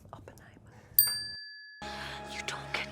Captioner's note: bell dinging